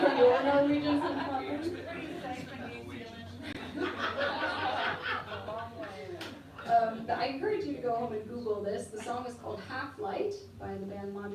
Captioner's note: laughter